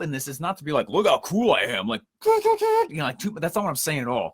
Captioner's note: makes tooting sound